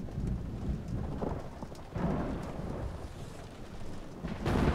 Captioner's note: thunder rumbling